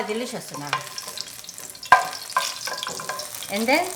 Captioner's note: oil popping